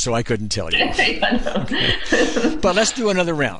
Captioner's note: laughs